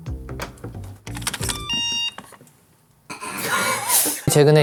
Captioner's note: the door locks